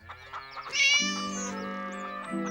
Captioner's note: Tabby meows